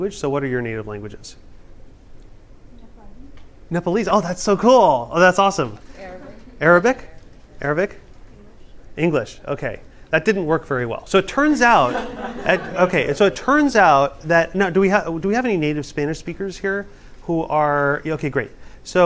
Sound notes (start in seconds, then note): 11.7 laughter